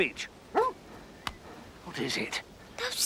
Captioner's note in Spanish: perro ladrando